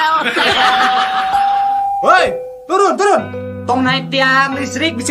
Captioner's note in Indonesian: tertawa